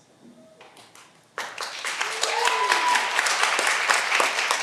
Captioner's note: all applauding